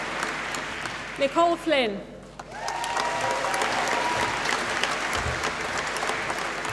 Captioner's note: applause